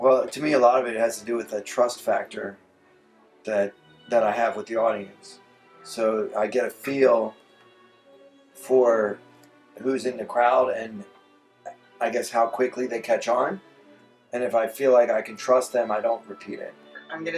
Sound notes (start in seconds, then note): none